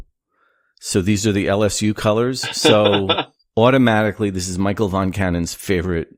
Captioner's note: laughter